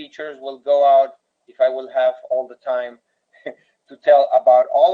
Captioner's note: chuckles